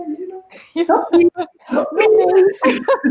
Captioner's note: both laughing